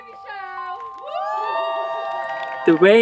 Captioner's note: campers cheer